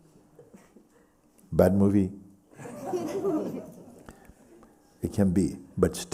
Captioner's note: laughter